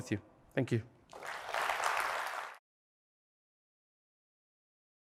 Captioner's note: applause